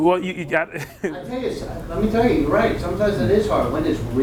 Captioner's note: laughs